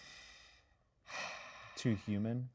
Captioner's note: sighs